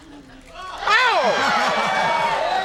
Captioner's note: audience cheering